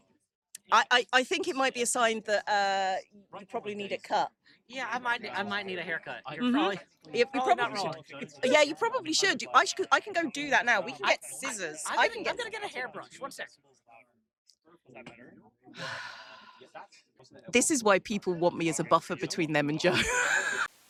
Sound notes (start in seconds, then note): 15.8 sighs; 20.0 laughs